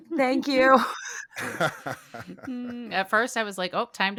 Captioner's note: all laugh